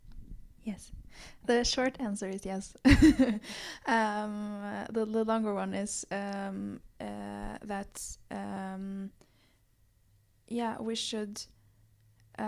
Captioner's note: laughs